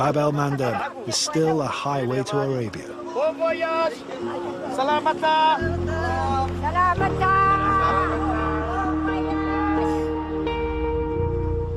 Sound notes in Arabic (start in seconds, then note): 5.3 إدي التحدث بلغة أجنبية; 7.1 التحدث بلغة أجنبية